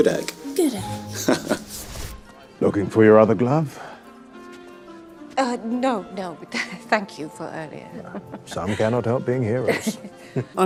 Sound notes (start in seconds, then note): 1.1 Victor laughing; 2.0 classical music; 2.0 scene whooshing; 7.9 laughing; 7.9 chuckling